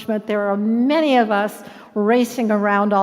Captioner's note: none